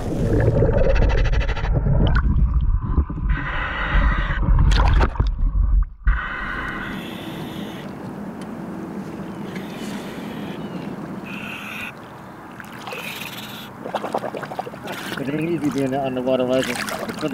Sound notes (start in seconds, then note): 0.0 water bubbling; 0.2 mouthpiece hissing; 4.6 water splashing; 6.1 mouthpiece hissing